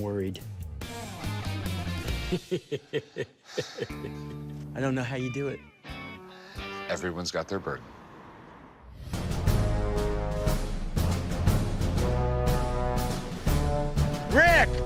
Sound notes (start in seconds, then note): 2.1 laughs